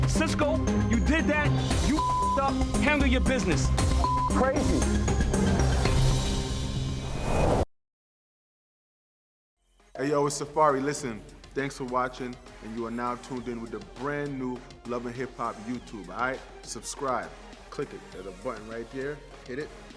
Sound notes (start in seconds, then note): 3.7 beep